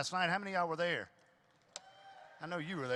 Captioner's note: audience cheers